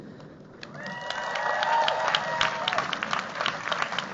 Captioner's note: cheers, applause